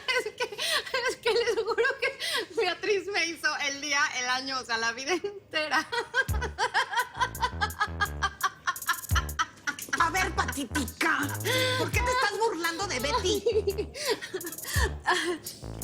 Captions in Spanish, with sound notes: - ES QUE... ES QUE LES JURO QUE BEATRIZ ME HIZO EL DÍA, EL AÑO, O SEA, LA VIDA ENTERA. [Carcajadas] - A VER, PATÍTICA. ¿POR QUÉ TE ESTÁS BURLANDO DE BETTY?